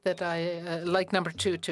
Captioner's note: speaking French